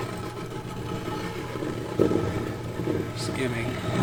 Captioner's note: stone grinding